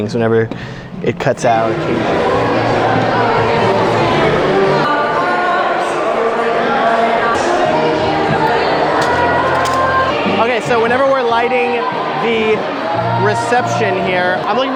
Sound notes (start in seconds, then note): 2.0 background soft music; 3.7 crowd murmuring